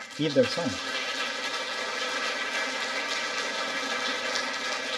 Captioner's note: audience applauding